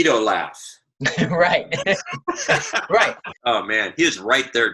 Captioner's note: laughing